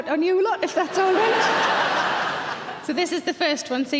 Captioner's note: audience laughing